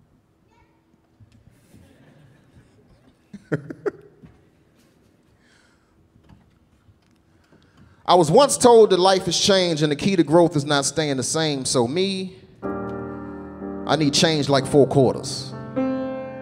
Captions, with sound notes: - Yep. (audience laughing) - (laughing) I was once told that life has changed, and the key to growth is not staying the same. So me, I need change like four quarters.